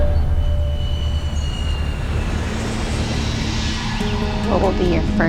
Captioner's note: airplane engine roars